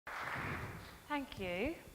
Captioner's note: audience applauding